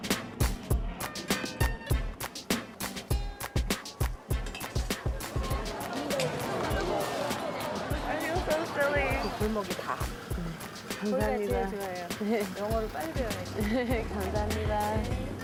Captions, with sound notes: - I feel so silly. (speaking Korean)